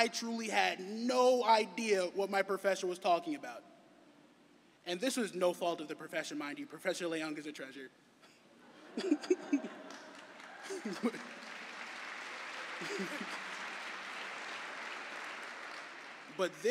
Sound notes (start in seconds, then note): 11.7 laughter; 13.0 cheering and applause